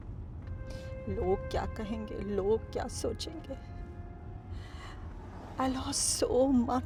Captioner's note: in Hindi